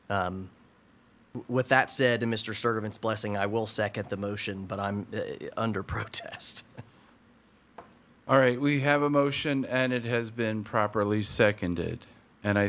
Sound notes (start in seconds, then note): 7.6 scoffs